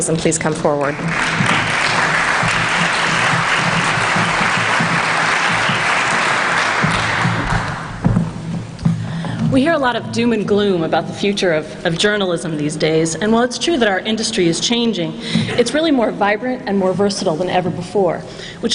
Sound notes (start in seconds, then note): 0.8 applause